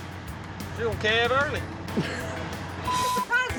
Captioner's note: laughs